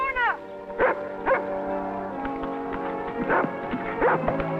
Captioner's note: dog barking